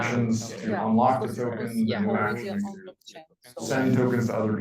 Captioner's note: speaking faintly